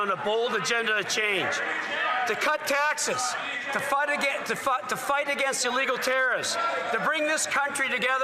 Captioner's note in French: voix de l'interprète